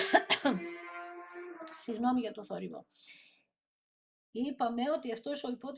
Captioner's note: dry cough; cough